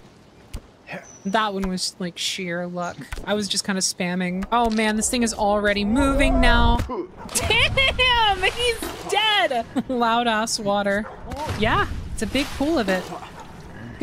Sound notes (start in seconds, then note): 6.7 heavy Impact; 13.1 dog Barking In-Game